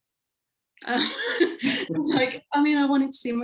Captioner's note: laughing